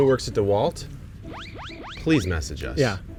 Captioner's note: ascending tones